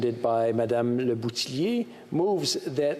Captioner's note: speaking french